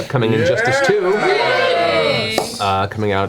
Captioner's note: all cheer